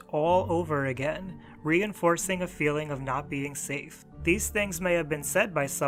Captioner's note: none